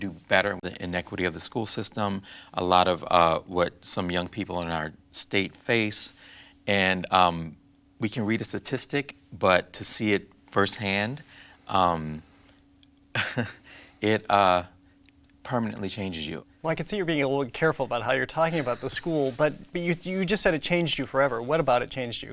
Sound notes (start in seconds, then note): 13.1 chuckles